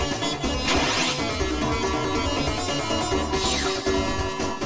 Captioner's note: annoyed noises